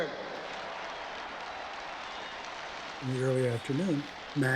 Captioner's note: crowd cheers and applauds